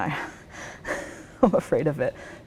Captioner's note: laughs